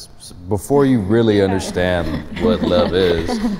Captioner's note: giggling